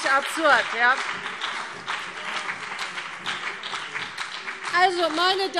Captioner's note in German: Beifall BÜNDNIS 90/DIE GRÜNEN und vereinzelt CDU